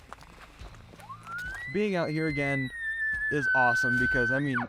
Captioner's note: elk lure sounds